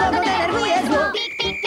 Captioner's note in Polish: Pik, pik, pik